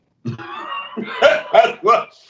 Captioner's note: both laughs